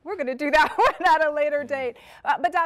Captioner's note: laughter